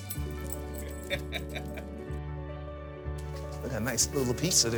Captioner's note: laughing